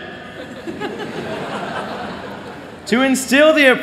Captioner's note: laughter